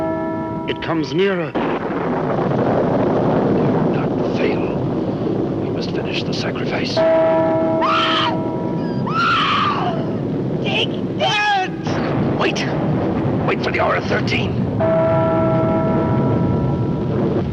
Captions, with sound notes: It comes nearer! Do not fail! We must finish the sacrifice. (Screams) - Dick! - Pat! Wait! Wait for the hour of 13. (clock chimes)